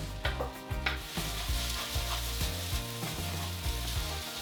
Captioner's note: calm, instrumental music; sizzling